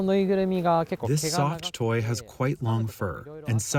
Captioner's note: through translator